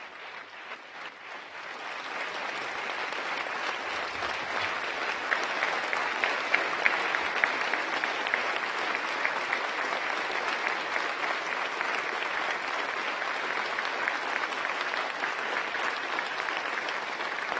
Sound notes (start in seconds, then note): 4.1 applause